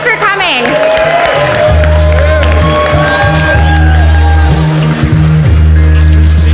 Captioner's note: audience cheers and applauds